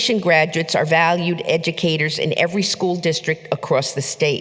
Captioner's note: none